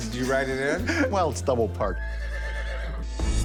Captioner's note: horse whinnies